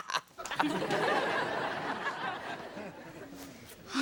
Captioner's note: audience laughs